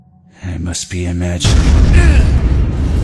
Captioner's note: explosion